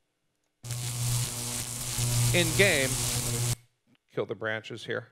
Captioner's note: electricity Buzzing